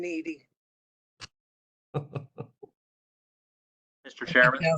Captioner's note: laughter